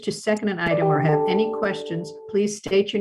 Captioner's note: computer chimes